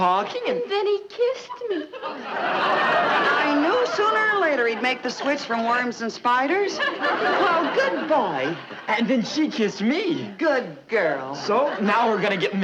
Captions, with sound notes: - And then he kissed me. (audience laughing) - I knew sooner or later he'd make the switch from worms and spiders. (audience laughing) - Well, good boy. - And then she kissed me! - Good girl! - So, now we're gonna get married.